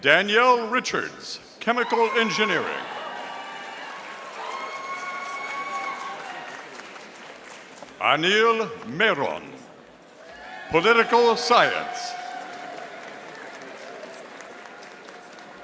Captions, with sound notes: Danielle Richards, Chemical Engineering. (audience cheering) Anil Meron, Political Science. (audience applauding)